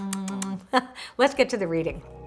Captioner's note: kissing sounds